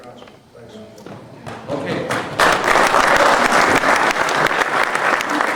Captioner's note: crowd applauding